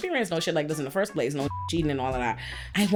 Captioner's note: beep